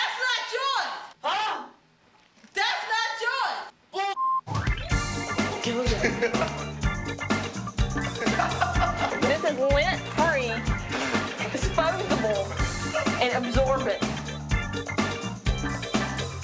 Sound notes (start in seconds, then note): 4.1 beep; 6.7 upbeat music